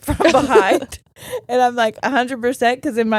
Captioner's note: giggling